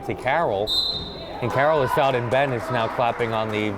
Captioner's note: whistle